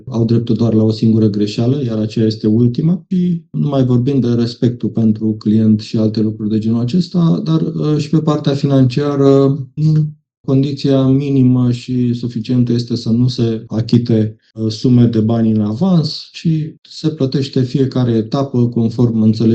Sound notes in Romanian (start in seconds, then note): 4.2 voce dreasă